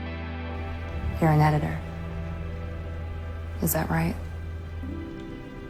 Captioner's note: voiceover